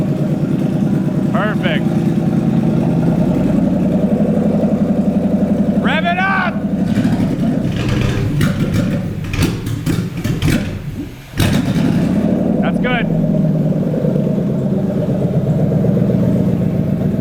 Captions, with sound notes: Perfect. Rev it up! (engine sputters loudly) That's good. (engine revs loudly)